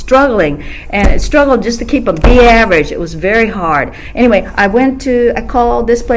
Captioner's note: hand hits table